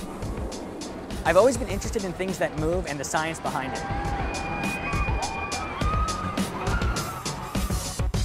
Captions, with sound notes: I've always been interested in things that move and the science behind it. [people screaming]